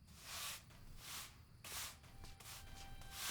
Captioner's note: crickets, sweeping